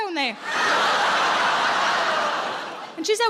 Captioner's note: audience laughs